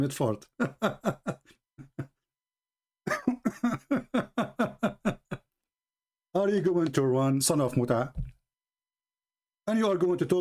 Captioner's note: Ketawa